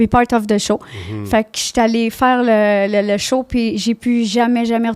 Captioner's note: in french